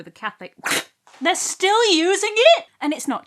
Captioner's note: spit take